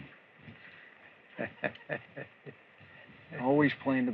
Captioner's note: chuckles